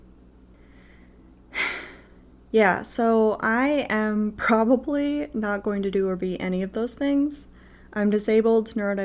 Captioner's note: sigh